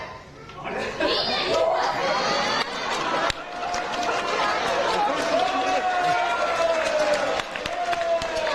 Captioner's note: lively audience